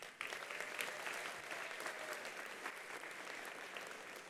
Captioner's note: attendees applauding